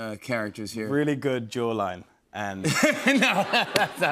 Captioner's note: laughter